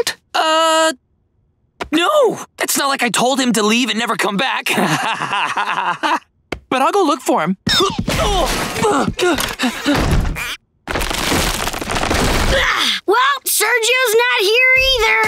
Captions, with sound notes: Uh... No! It's not like I'd told him to leave and never come back. [laughing] But I'll go look for him. [groaning] Well, Sergio's not here either.